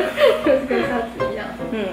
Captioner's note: laughing